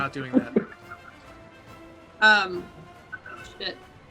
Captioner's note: laughter